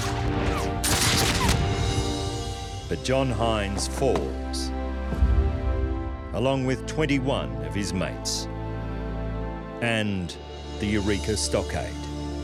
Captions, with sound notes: [rifles firing] But John Hynes falls, along with 21 of his mates... [emotional music] ...and the Eureka Stockade.